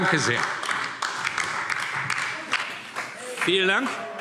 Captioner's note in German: Beifall DIE LINKE